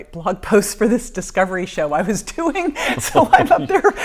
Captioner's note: laughing